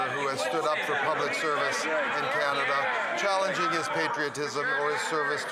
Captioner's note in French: voix de l'interprète